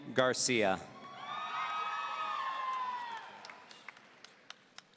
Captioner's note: audience cheering